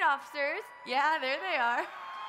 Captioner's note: crowd members cheer